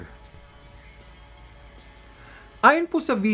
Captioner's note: silence